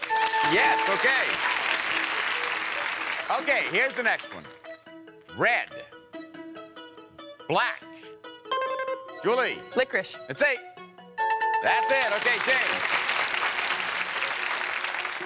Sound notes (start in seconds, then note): 0.0 bell rings; 8.5 bell rings; 11.7 applause